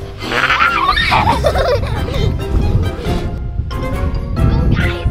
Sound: giggles and laughter

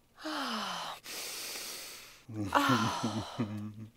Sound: sniff

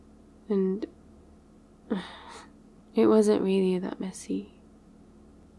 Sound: sighs

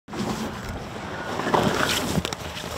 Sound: bag rustling

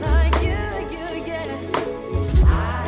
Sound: none

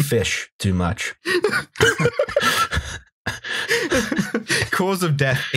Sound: laughter

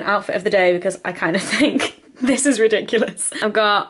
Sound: laughs

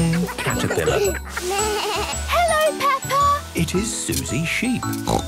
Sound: bleating; snorting

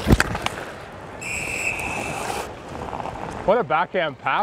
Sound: whistle blows

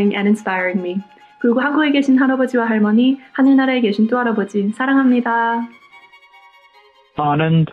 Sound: non-english speech

